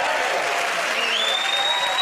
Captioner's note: cheers and applause